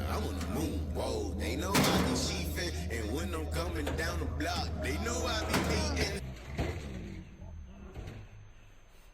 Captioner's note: metal banging; muffled scream